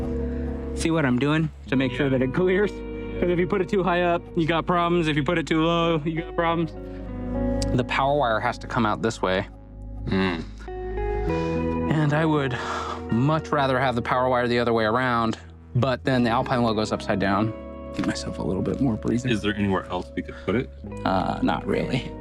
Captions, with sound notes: See what I'm doing to make sure that it clears. Cause if you put it too high up, you got problems. If you put it too low, you got problems. The power wire has to come out this way. - (groans) And I would much rather have the power wire the other way around, but then the Alpine logo's upside down. Give myself a little bit more breathing room. - Is there anywhere else we could put it? Not really.